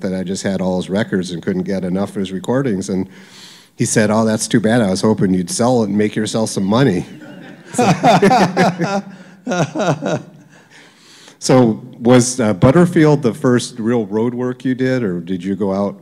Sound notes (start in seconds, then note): 7.0 laugter